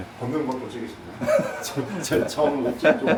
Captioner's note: laughs